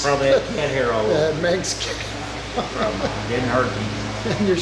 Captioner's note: laughing